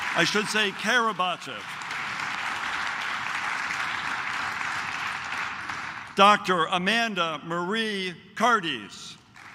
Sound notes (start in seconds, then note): 1.3 claps